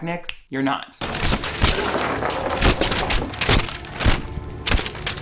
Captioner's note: paper rustling